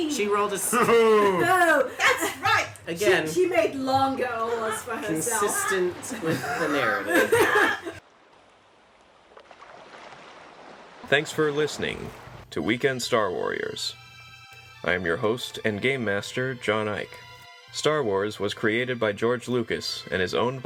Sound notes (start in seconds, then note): 8.2 sound of waves